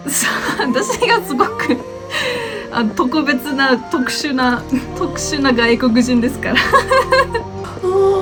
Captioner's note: haha